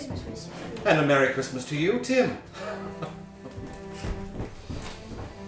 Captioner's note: laughing